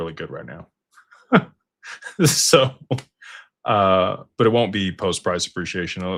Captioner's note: laughter